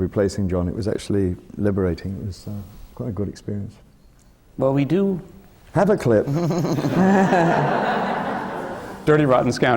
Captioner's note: laughter